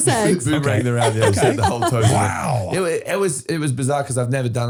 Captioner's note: laughing